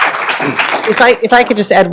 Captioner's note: applause